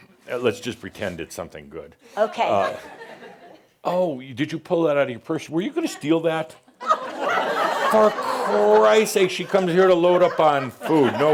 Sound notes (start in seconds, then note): 6.6 laughter